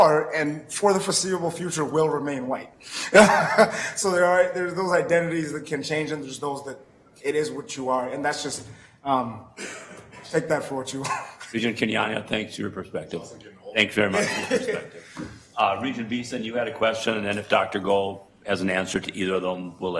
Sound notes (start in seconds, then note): 3.0 laughs; 14.1 laughs